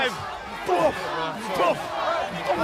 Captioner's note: crowd chatter